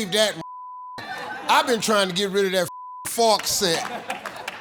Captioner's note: beep; beep